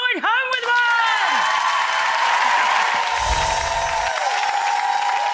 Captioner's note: cheers and applause